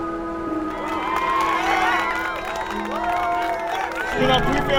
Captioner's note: athletes cheering and applauding